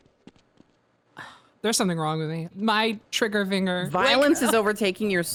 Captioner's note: sighs